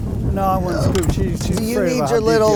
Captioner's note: speaker drown out by wind howling; wind howling